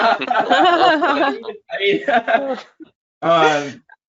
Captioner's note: laughs